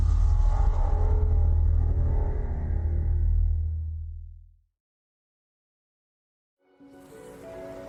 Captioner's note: transition sound